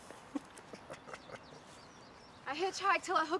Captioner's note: chuckles